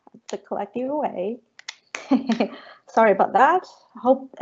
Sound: chuckling

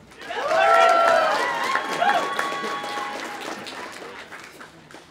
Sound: audience applauding; audience cheering

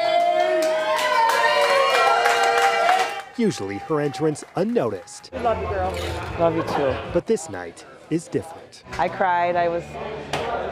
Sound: applause

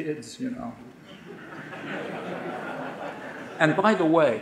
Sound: audience laughing

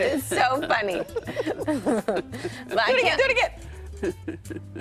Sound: laughter

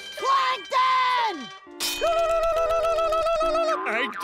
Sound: whistling battle cry

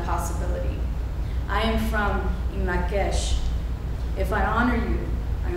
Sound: speaking foreign language

